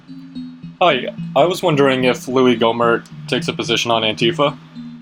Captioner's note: on the phone